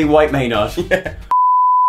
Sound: laughing

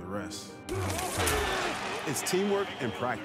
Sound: men yelling

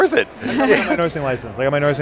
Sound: laughter

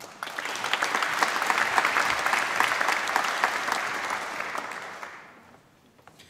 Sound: applause

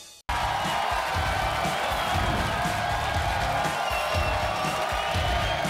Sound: audience cheering; upbeat music

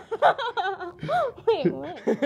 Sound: gasps and laughs

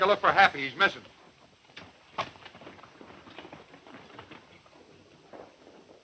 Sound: hoof beats fading away

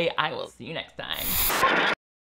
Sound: static crackles

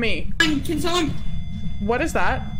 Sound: low beeping noise

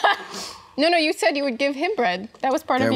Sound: laughing

